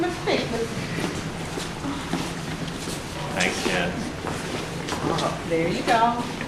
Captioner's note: mutters of thanks, approval, and happiness